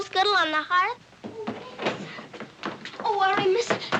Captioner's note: door opens